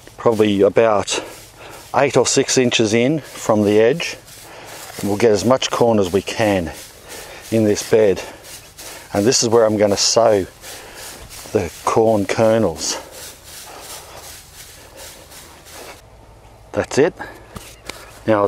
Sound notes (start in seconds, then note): 13.1 mulch rustles; 17.4 hands shuffle